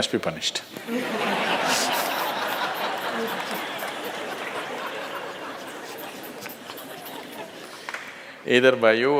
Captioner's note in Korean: 웃음